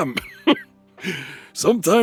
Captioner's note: laughs